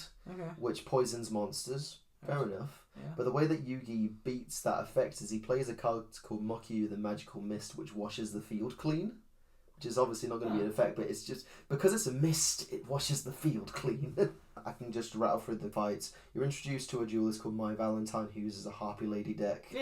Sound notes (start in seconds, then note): 14.1 laughs